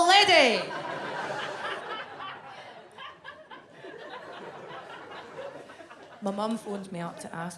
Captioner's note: audience laughs